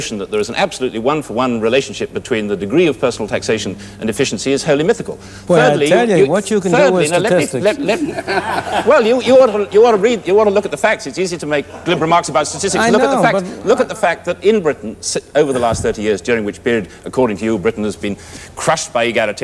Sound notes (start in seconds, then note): 7.4 laughter